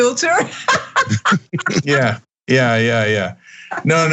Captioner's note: laugh